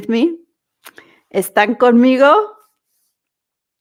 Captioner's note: Spanish